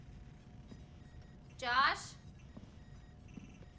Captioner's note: computer beeping faintly